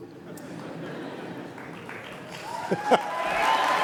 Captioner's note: audience laughs; audience cheers and applauds